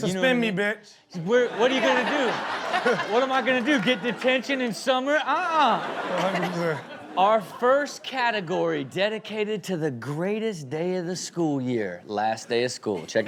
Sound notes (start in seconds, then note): 6.0 Chanel and audience laugh